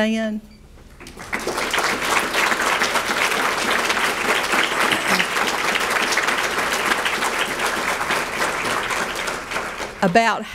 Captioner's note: audience clapping